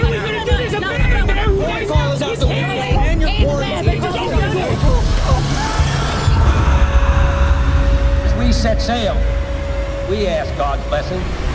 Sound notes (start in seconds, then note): 1.4 multiple people yelling; 4.9 screams; 8.3 voiceover